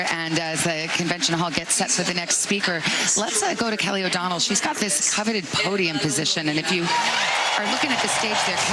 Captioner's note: applause